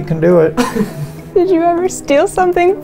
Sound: giggling

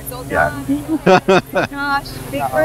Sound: laughs

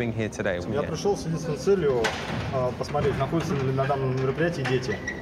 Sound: speaking in foreign language

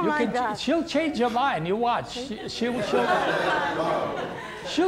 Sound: laughter

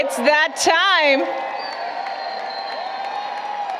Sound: applause, Cheering

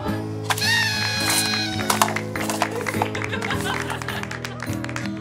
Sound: party horn, laughter, applause

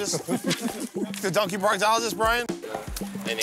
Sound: laughter

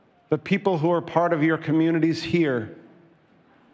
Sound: none

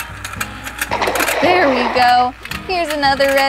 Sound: water splashes

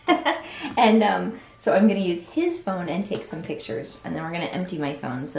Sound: laughs

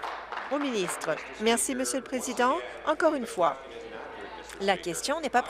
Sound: applause

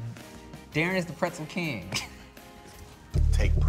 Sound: chuckles

